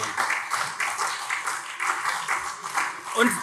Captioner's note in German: Beifall CDU und SPD